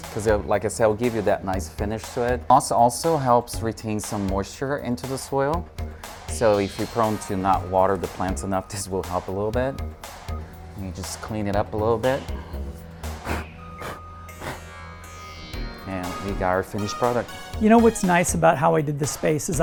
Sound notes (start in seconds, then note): 12.4 blows